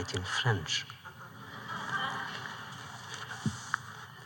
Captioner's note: laughter